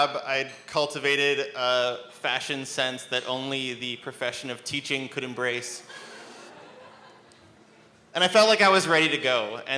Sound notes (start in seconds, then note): 5.9 laughter